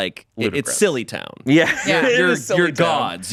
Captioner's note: laughs